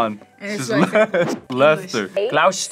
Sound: laughs

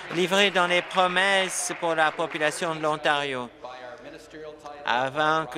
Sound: applause

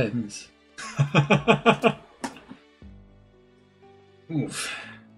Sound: laughs

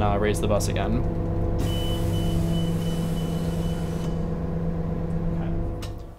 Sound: bus beeps as it kneels up

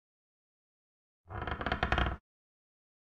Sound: sound of floorboard

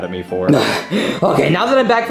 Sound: Luigi panting

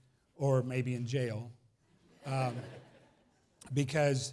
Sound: laughs

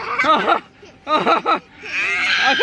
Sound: laughs

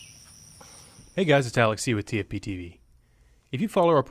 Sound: voiceover

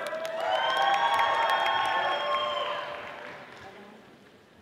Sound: audience applauding

